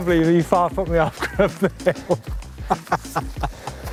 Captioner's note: laughing